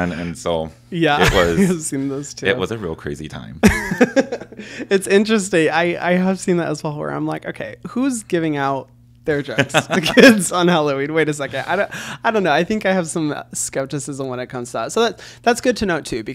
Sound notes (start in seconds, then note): 3.6 Hyram laughs